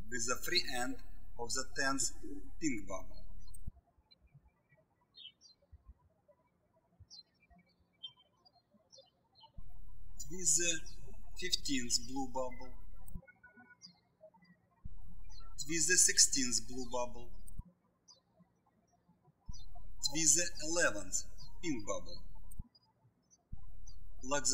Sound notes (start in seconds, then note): 3.9 birds chirping